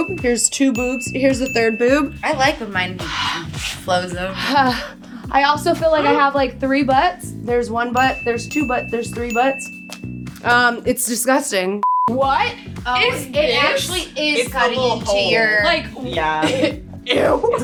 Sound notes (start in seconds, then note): 11.8 beep